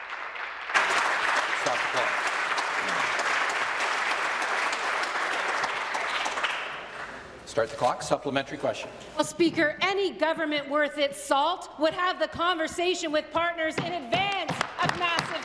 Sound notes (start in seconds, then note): 3.4 applause